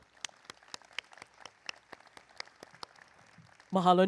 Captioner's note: applause